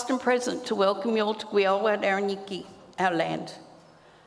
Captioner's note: speaks native language